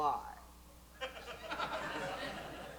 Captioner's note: light laughter